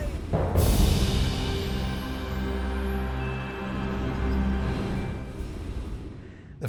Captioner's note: soft music; wind whooshing